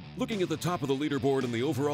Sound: voiceover

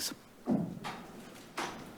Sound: thuds

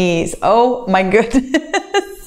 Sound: laughs

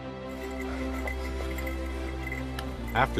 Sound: breathing heavily

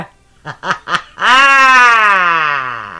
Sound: laughs maniacally

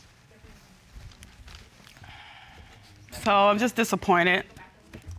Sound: sighs

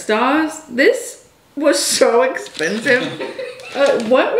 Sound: laughs

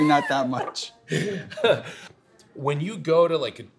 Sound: laughs

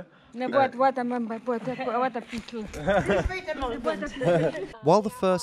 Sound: speaking foreign language

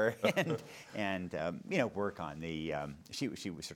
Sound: laughing

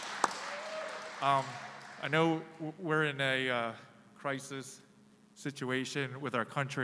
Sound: applause

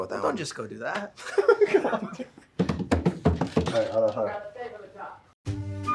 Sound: laughs

